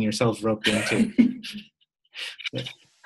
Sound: chuckle

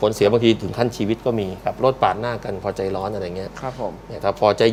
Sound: none

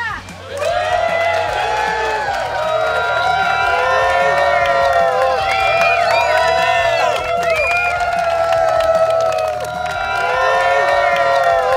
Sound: cheering & Clapping

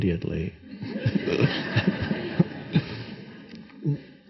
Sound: audience laughing

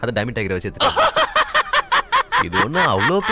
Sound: laughs

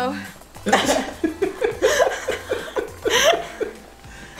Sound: laughing

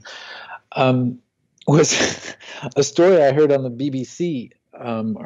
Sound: laughs

